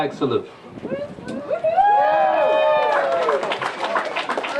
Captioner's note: applause